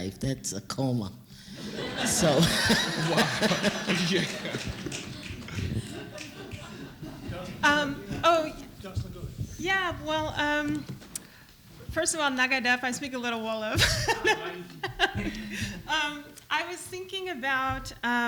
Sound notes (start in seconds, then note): 4.8 laughter; 11.8 non-english speech